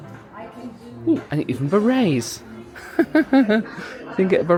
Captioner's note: laughing